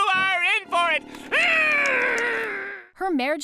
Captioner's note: groaning